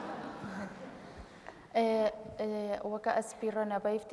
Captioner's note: speaking kurdish